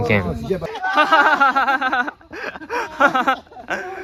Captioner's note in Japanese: 笑い